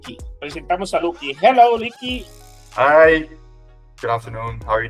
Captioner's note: in English